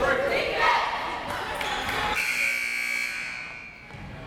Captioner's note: crowd members shouting; buzzer ringing